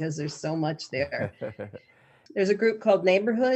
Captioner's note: laughing